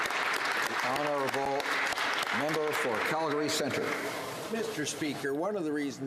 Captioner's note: applause